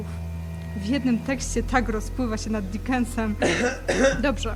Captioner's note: meaningful caugh